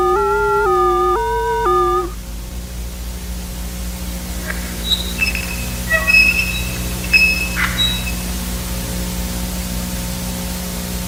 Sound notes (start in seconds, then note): 4.4 metallic Squeaking